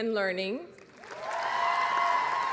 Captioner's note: applause